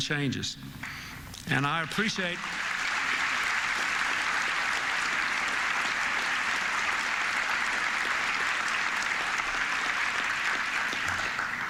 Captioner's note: applause